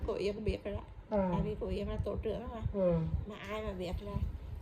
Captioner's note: yawn